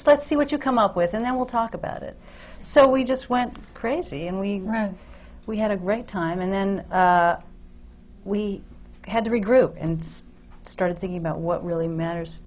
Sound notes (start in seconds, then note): none